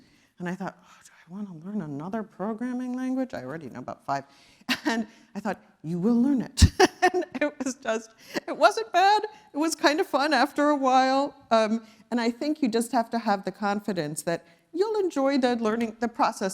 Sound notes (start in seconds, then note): 6.6 laugh